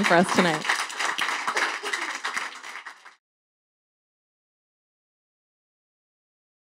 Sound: applause

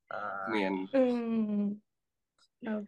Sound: speaking in Isaan dialect

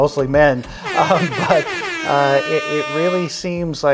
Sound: reggae airhorns

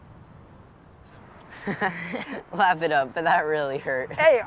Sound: laughter

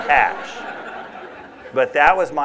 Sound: laughter

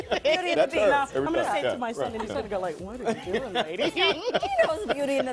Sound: laughter

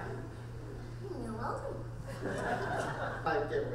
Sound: voiceover; crowd laughing

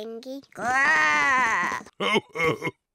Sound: oinks; growls; chuckles

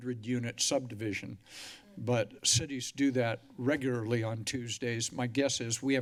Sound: inhales heavily

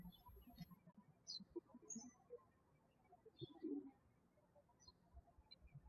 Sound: birds chirping

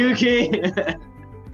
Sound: laughter

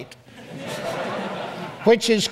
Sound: audience laughs

